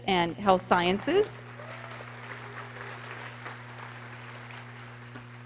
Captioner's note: people cheering